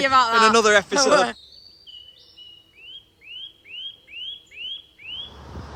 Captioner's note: laughing; birds singing